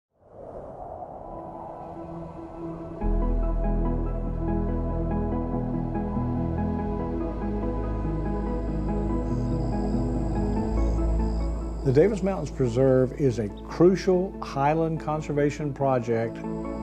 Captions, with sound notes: (wind whooshing) (soft uplifting music) (crickets chirping) The Davis Mountains Preserve is a crucial highland conservation project.